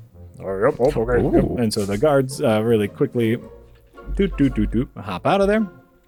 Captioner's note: walking away noises